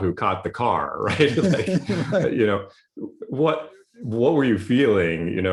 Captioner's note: laughs